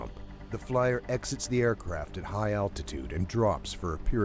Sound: voiceover

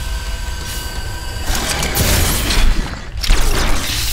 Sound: rock alien roars

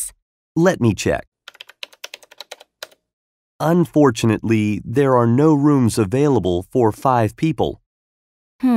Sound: typing sound

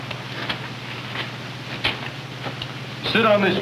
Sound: footsteps

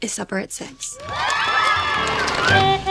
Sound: cheers

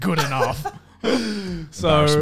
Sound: laughs

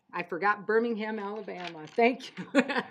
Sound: laughing

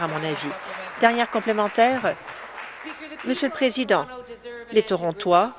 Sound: applause

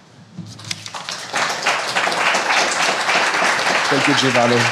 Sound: applause

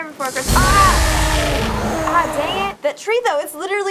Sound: Boogeyman roars

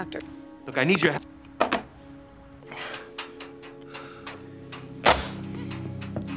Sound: phone clunking

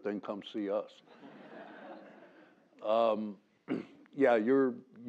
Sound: laugh; cough

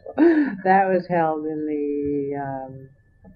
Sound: laughter

